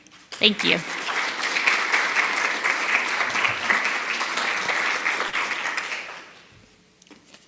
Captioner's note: applause